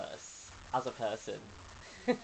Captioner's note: laughs